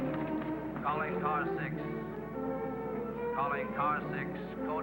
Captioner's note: man On Radio